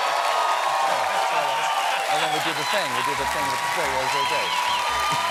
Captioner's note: cheers and applause